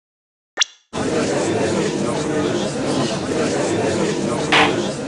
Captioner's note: gallery chattering